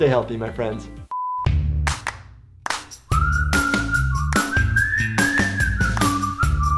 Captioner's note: beep; upbeat music